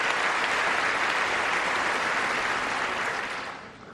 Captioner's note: applause